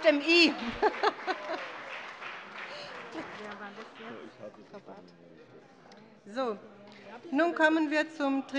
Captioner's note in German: Beifall bei der SPD